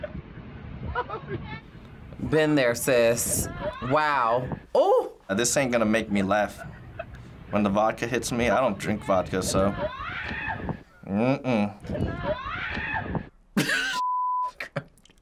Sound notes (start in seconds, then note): 9.8 woman screams; 12.5 laughs